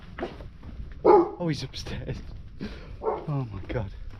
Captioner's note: woof